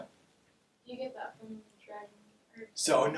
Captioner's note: muffled chatter